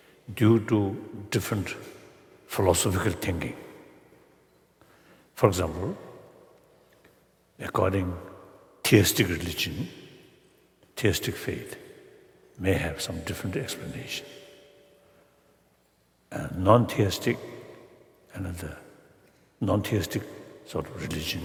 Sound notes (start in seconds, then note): none